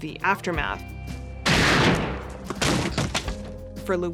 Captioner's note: shot cracks and echoes